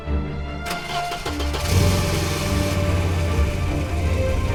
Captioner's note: engine cranking